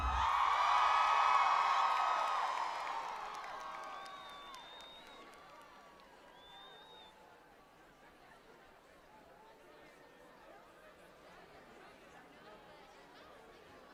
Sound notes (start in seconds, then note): 4.5 applause